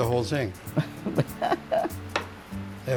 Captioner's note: chuckles